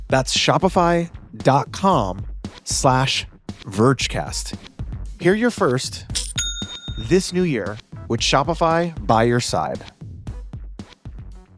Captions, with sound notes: That's shopify.com/vergecast. Hear your first (cash register dinging) this new year with Shopify by your side.